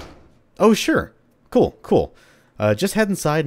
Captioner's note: intercom